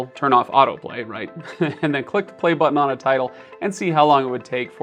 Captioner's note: chuckles